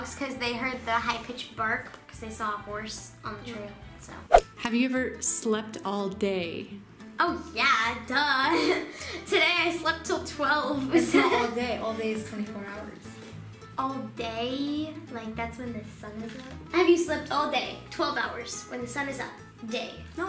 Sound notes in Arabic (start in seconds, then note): 4.3 سووش